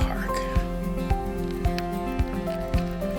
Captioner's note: bike Sounds